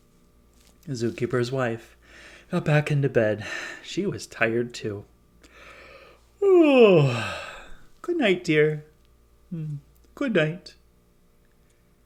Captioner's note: yawn